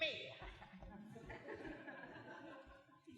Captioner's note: laughter